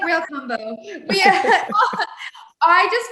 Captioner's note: laughing